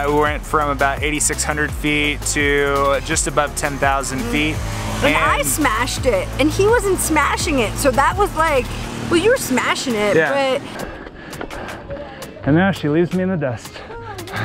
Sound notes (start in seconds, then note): 10.6 breathing heavily